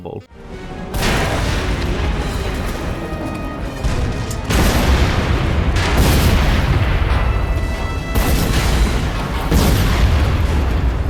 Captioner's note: explosions, fire, all hell breaks loose